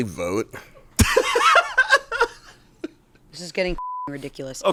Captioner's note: laughs; beep